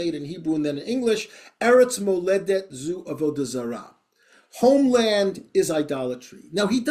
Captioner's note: hebrew